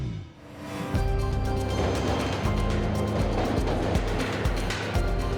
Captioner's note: upbeat music; subway rattling; upbeat music